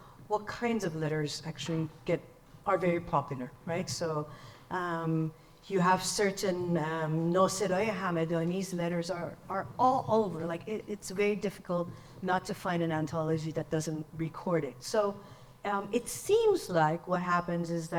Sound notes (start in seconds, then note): 5.2 speaks in foreign language